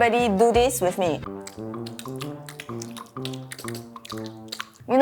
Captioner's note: intense chewing noises